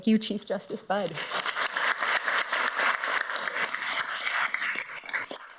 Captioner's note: everybody applauds